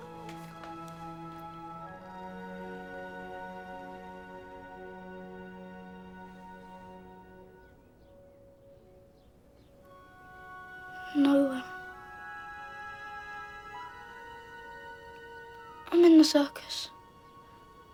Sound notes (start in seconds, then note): none